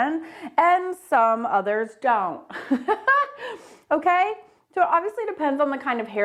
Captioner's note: chuckles